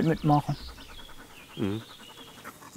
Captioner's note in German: Vogelgezwitscher